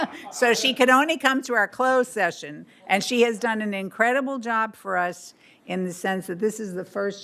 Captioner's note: laughter